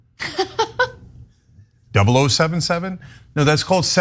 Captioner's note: laugh